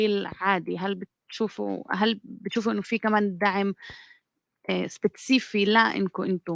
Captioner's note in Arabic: لغة أجنبية